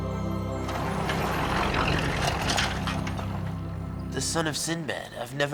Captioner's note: peaceful instrumental music; car engine rumbling